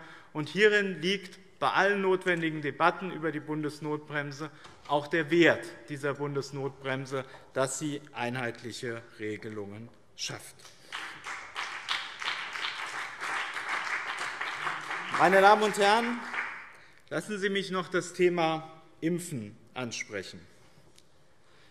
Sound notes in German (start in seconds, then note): 10.6 Beifall BÜNDNIS 90/DIE GRÜNEN und CDU